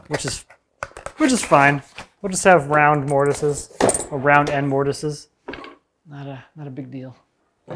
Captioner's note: none